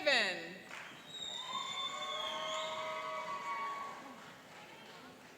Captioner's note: cheering and applauding